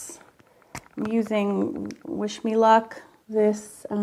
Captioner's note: pen cap snaps